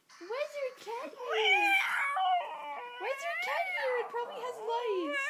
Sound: crazy cat sounds

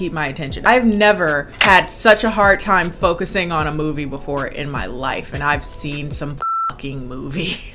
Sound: beep

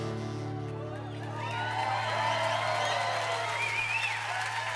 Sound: audience cheering

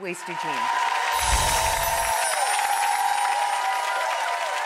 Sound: audience cheering

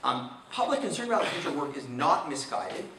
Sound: man coughing

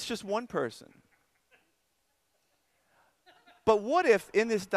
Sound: audience laughter

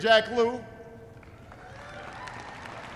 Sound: applause

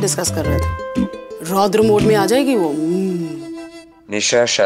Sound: mild growl

